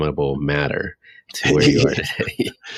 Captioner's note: laughing